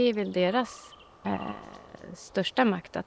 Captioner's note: A crow caws